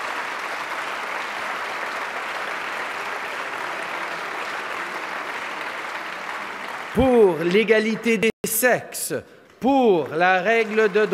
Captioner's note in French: Applaudissements